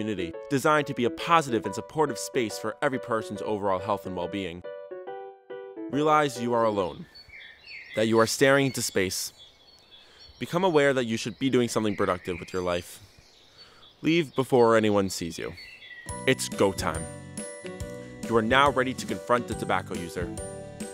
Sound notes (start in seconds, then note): 6.5 birds chirping; 15.2 birds chirping